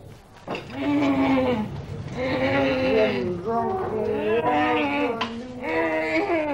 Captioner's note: groaning